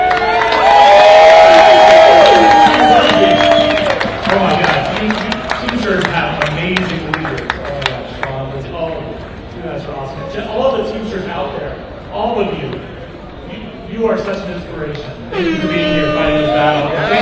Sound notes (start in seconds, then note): 4.1 applause